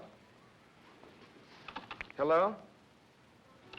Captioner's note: jiggling receiver